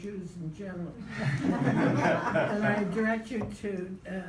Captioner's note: group laughs